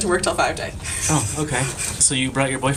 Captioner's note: laughter